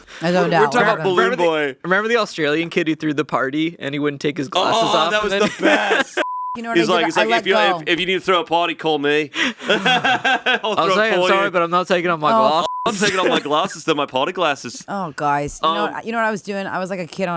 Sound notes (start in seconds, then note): 6.1 beeping; 9.4 laughing; 12.4 beeping